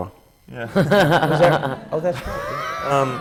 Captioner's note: laughter